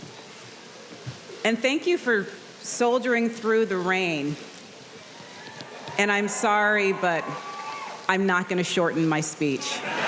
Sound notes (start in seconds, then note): 5.1 audience cheering